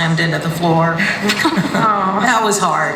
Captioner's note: laughter